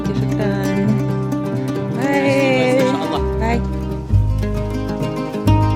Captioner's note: speaks foreign language; soft ethnic music